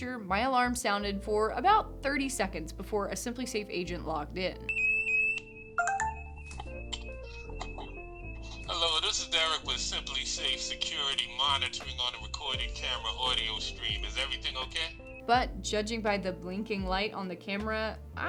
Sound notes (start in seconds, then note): 4.6 alarm blaring; 4.6 alarm beeping